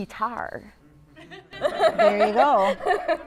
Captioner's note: laughter